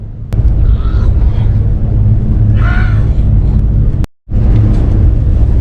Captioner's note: sighs